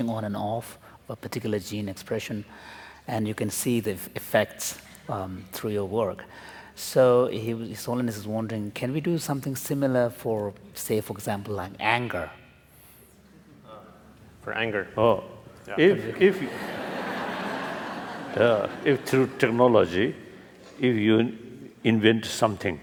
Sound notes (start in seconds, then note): 16.2 laughter